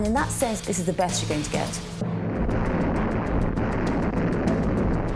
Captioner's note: explosions